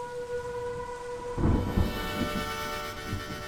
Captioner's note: thunder